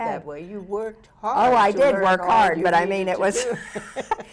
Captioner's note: laughs